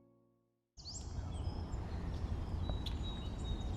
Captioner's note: birds chirp